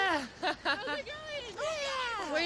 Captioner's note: chatter